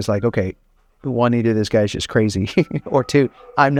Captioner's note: laughs